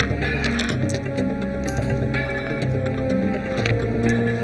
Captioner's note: bullets clatter; ominous orchestral music